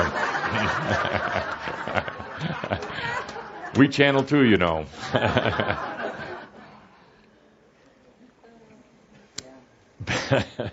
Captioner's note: lots of laughter, chuckling